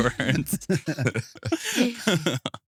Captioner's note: both Laughing